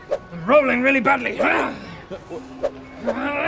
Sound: hyargh!; hrrgh

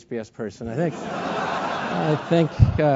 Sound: laugh

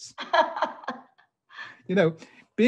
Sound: laughing

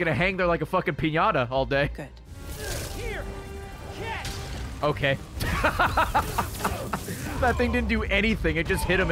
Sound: laughs

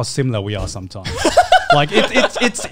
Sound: laughs

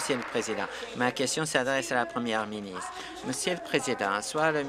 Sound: applause

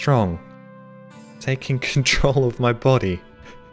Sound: chuckles

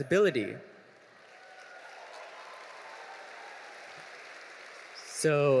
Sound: audience applauding

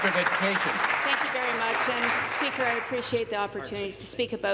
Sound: applause

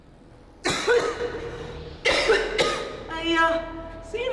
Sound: coughing

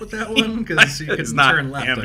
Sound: both laughing

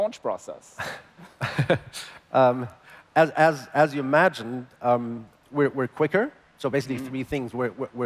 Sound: laughs

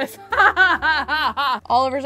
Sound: laughing

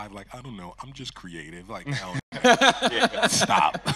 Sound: host laughing

